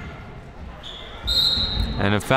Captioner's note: whistle